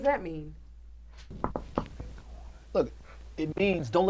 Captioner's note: glass knocks